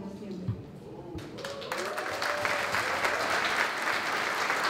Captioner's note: applause